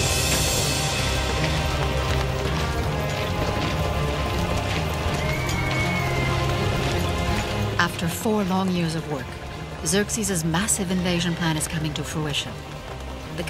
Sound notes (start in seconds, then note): 0.0 horse hooves clopping; 0.2 impressive orchestral music; 5.0 horse neighs